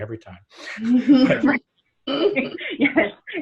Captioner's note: everyone laughs